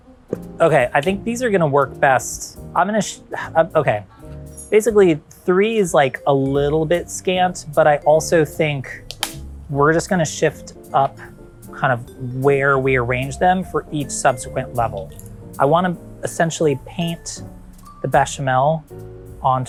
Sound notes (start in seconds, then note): 9.0 noodles cracking